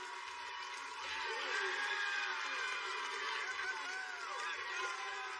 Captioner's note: cheers and applause